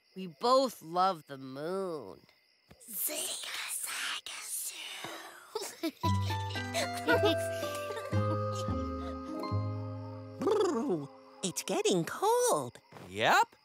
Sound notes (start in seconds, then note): 1.6 whispering; 5.5 giggling